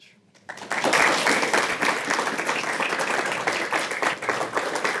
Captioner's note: audience applauds